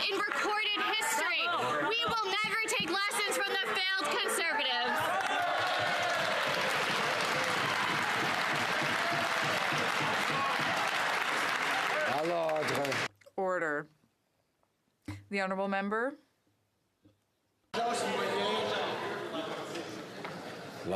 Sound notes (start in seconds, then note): 9.1 cheering; 12.0 some Applause